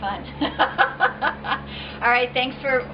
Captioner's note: laughs